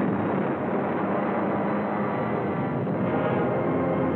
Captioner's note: explosions